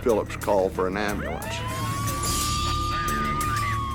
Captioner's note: siren